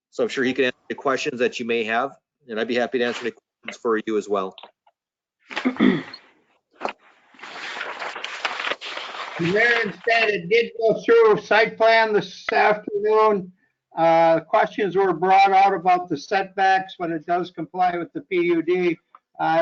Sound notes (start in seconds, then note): 5.5 clears throat; 6.7 papers rustling